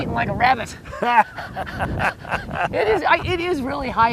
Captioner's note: laughter